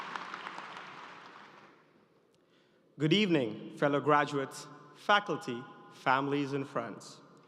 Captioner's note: cheers and applause